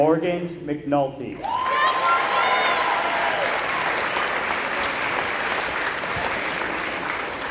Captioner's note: applause